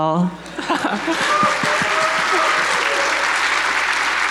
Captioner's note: audience applauding